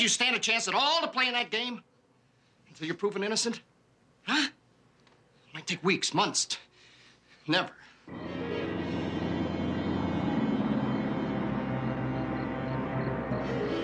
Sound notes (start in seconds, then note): 9.4 crickets chirping